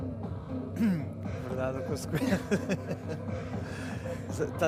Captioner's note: laughs